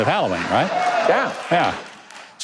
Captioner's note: audience laughing